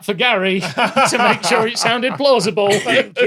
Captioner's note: laughs